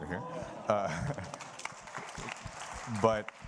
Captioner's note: audience applauding